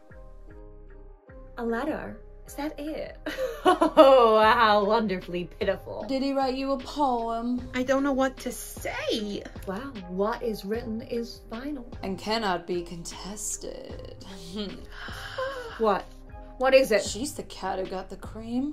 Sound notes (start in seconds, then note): 15.0 Harley gasps